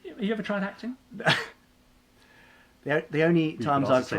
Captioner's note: laughing